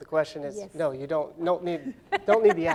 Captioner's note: laughing